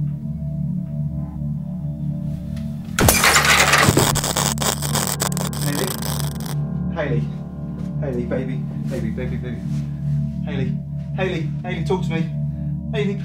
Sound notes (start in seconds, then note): 3.0 light explodes